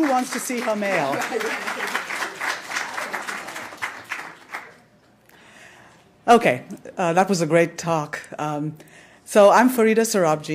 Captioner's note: applause